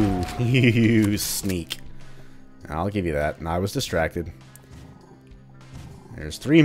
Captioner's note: chuckles